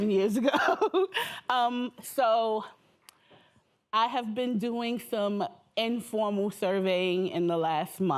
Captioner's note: laughs